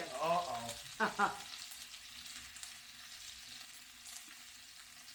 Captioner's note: laughs